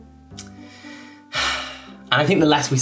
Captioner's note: sighing